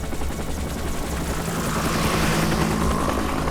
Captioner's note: helicopter flies over